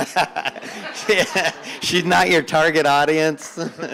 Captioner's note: laughing